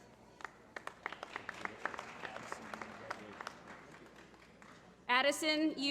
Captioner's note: applause